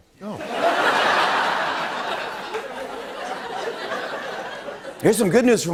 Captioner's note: laughter